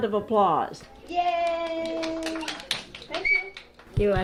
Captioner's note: children clapping